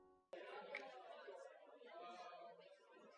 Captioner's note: murmuring